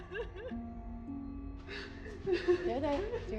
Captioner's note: gentle music; Maggie crying